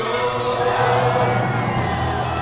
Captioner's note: cheering; music swells